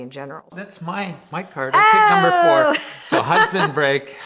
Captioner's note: giggles